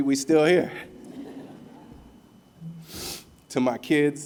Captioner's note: laughter